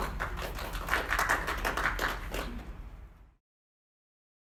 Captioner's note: participants clapping